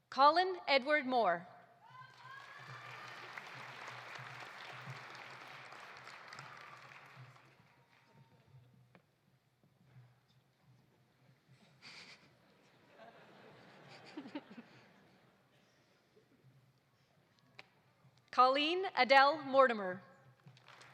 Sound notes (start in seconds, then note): 1.8 audience cheering; 1.9 audience applauding; 12.5 audience laughing; 20.5 audience applauding